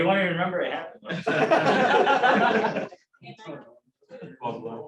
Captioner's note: laughter